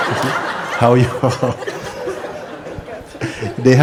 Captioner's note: laughter